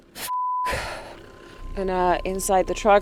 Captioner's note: beep